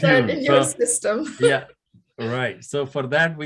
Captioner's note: laughing